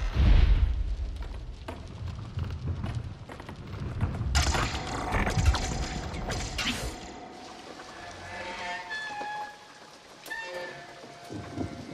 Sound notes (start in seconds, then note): 0.3 dinosaur stomps; 4.9 metal creaking